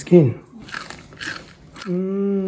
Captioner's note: crispy fish skin crunches